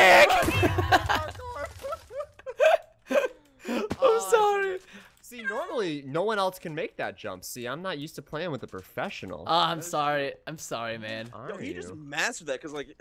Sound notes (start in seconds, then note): 0.0 shouts and laughs; 1.8 shouting and laughter